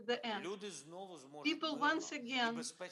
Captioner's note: Volodymyr speaking foreign language